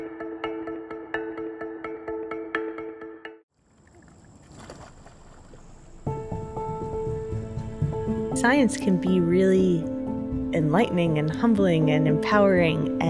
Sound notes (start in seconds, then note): 3.6 water splashes; 5.5 gentle music